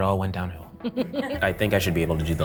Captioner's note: laughs